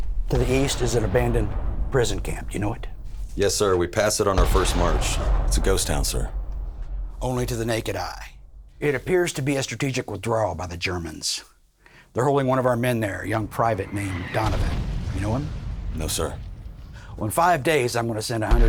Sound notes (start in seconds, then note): 12.6 bomb rumbling